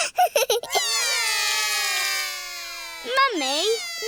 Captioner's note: laughs; all cry